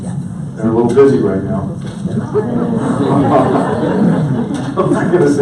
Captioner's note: audience laughs